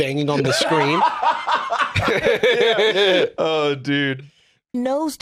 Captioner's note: laughs